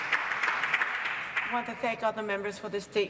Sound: applause

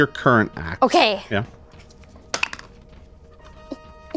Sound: dice clatter

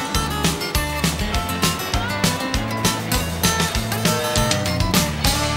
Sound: whistle blowing

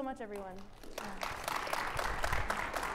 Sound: audience applauding

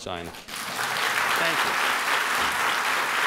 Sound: applause

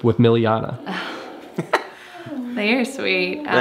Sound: both giggles

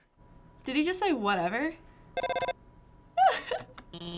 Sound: phone ringing; giggling

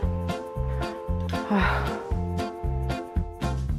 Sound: sigh

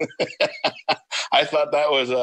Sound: laughs

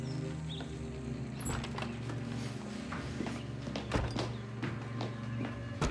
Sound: door opens, closes

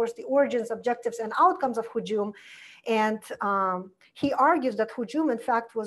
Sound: foreign language

